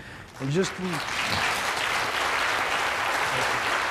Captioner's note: applause